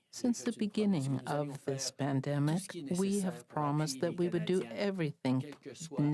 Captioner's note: speaking French